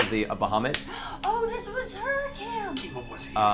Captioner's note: gasps